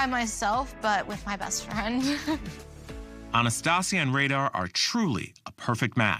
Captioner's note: chuckles